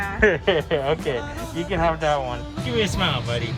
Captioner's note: laughing